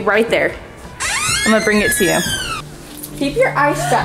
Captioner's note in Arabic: صرير الباب